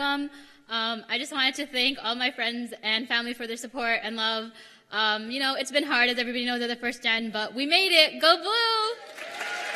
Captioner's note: cheers and applause